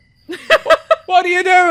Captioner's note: laugher